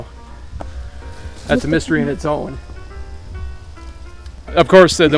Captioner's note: leaves crunching